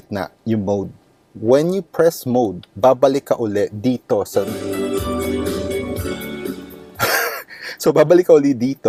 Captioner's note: laughs